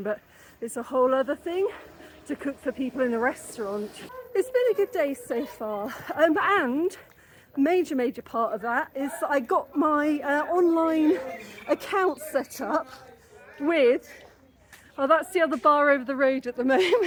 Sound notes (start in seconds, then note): 12.7 shouting